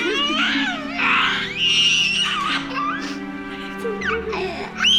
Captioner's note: crying